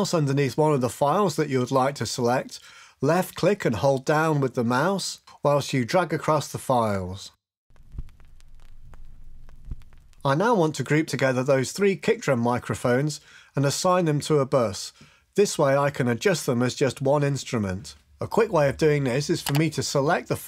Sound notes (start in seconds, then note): 7.7 record needle crackling